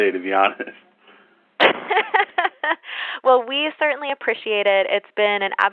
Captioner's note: laughter